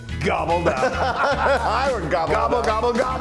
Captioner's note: laugh